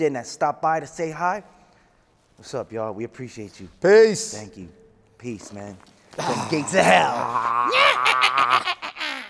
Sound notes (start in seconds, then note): 6.8 man laughing